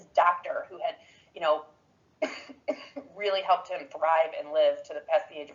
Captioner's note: coughs